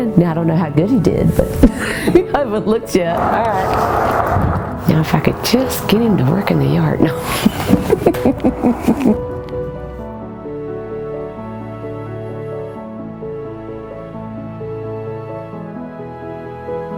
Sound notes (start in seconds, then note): 1.7 laugh; 7.2 big laugh